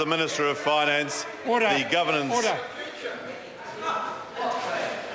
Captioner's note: members speaking loudly